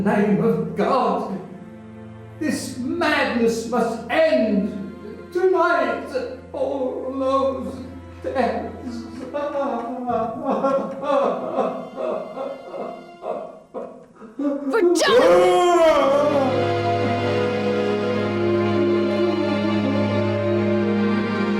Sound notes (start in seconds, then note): 9.1 man cries; 14.8 eerie music; 16.3 Dracula hollers